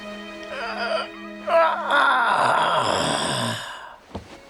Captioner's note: grunting